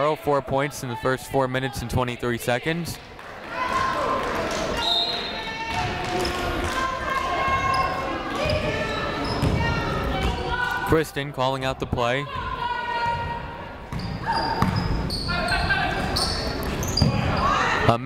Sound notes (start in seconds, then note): 4.8 whistle tweeting; 6.5 people shouting in the crowd; 13.8 people shouting in the crowd